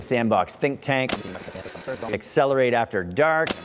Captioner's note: fast forward tape rolling